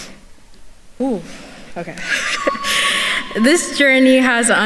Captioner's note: chuckles